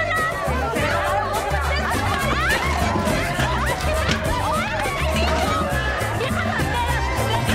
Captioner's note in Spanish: Gritos y exclamaciones